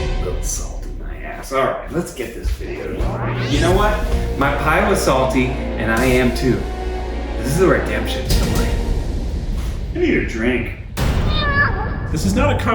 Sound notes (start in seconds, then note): 0.0 dramatic music; 3.8 whoosh; 7.2 dramatic music